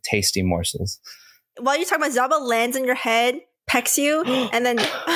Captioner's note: Driftwood gasps